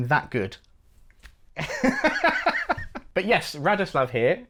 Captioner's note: laughs uncomfortably